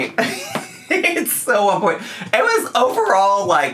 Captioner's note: laughs